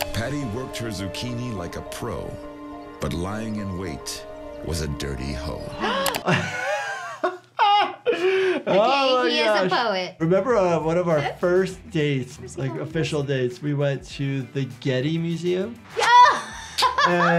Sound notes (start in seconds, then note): 5.8 both gasp; 5.8 laughs; 16.0 laughs